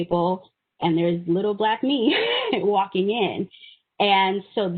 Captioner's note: chuckling